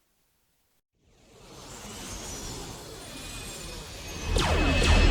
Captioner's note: spacecraft whooshes; cannons blasting; explosions booming